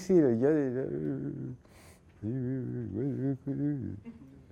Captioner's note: grumbling